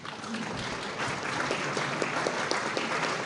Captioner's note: applause